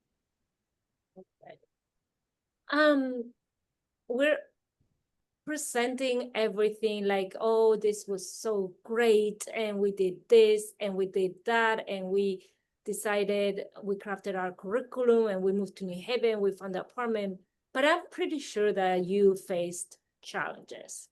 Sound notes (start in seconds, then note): 1.3 faintly speaking